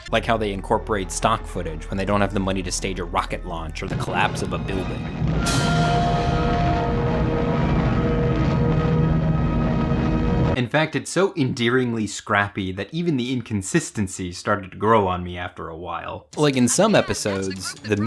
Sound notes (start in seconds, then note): 5.5 building collapsing